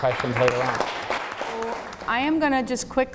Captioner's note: audience applauds